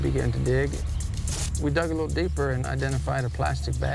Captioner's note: spade rustling in sand